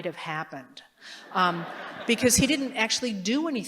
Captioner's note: laughter